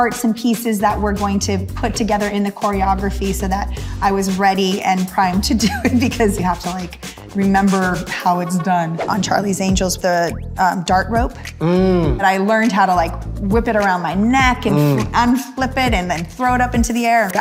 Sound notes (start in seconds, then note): 8.2 laughing; 8.8 wind whipping